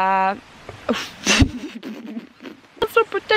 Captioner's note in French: pffff